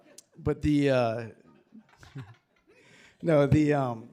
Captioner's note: attendees chuckling